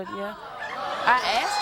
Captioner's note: audience cheers